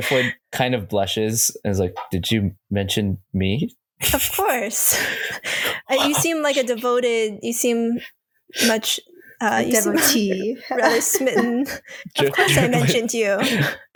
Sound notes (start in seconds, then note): 5.0 Driftwood gasps